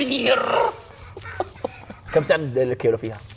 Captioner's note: laughs